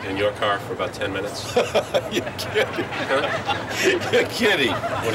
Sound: laughing

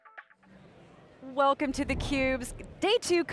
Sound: air whooshes

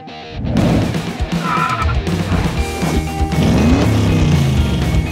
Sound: tires screeching

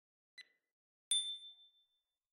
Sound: ding

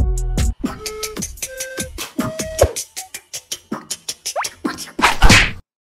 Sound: amateurish beatbox

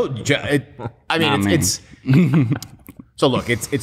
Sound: laughter

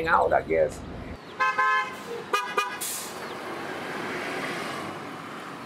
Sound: buses Horns Honking

